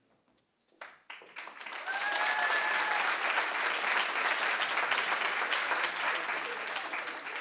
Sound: audience applauding; audience cheering

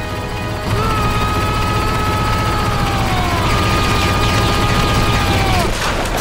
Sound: yelling

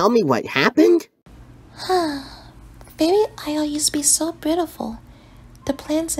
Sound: sighs

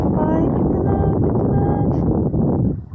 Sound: wind

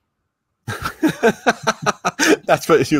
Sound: laughs

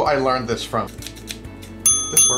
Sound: scissors snicking; dinging

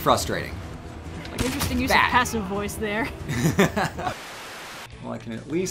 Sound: laughs

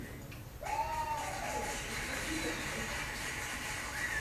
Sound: crowd cheers and claps

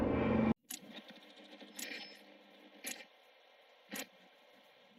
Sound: radio signal sounds

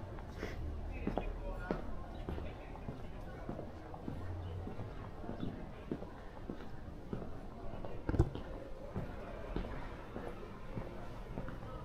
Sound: people chattering

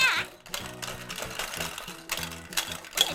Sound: clatter

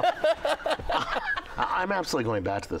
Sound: laughs

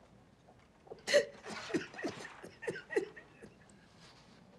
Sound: laughing

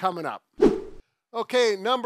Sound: swift whooshing

